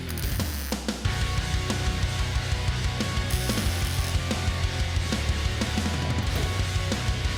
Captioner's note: intense rock music continues; tool whirring